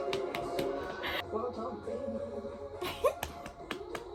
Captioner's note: laughing